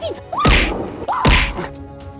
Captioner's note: screaming